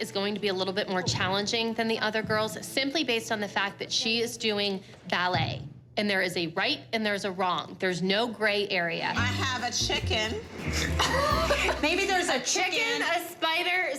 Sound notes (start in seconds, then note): 9.2 laughs